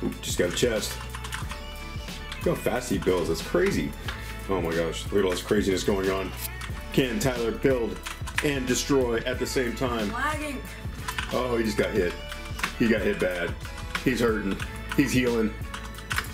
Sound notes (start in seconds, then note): 0.4 keys clacking